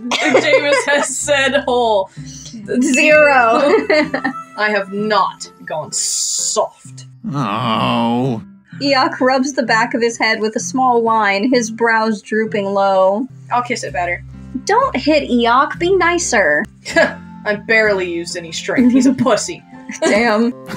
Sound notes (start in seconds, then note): 0.1 laugh; 3.6 chuckle; 7.2 Eeyok Groans; 19.9 giggle; 19.9 snicker